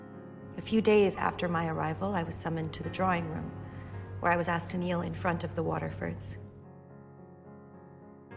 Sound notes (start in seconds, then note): 0.7 voiceover